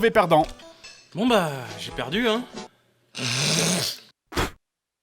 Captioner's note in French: Bruit de crachat